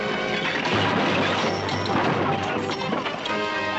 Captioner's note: crash